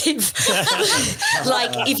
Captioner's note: everyone laughs